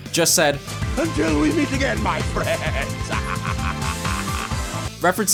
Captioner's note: evil laughter